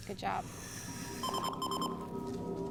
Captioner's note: alarm beeps